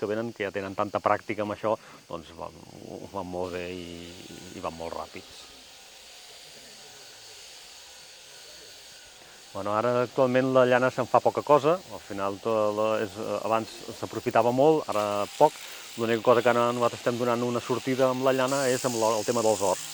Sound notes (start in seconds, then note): 5.7 noise of shearing clippers